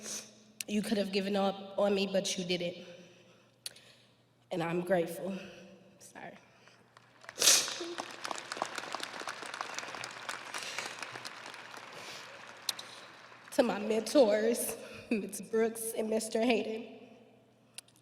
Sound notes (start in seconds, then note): 10.4 audience applauding